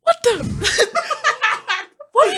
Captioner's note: laughing